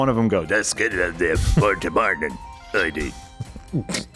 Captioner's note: speaks in Thieves’ cant